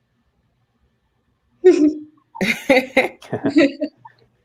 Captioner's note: laughter